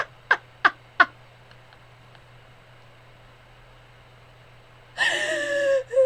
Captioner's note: silent laughter